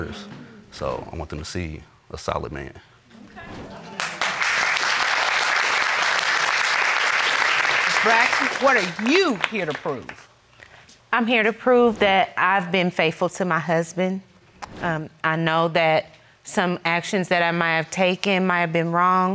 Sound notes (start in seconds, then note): 3.9 all applauding